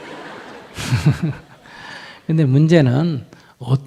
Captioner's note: Audience/Sunim Laughter